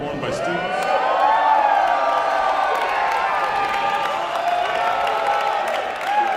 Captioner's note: audience cheering and applauding